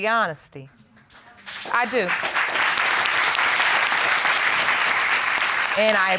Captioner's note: audience applauding